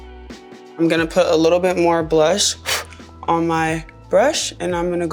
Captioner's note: blowing